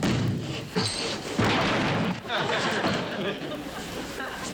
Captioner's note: crashing